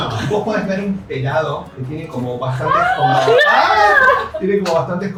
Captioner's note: fake screams